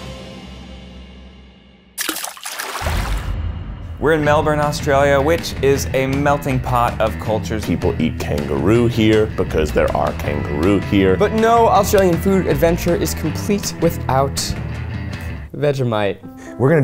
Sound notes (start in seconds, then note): 2.0 water splashes